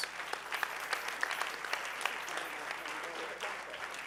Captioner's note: audience cheering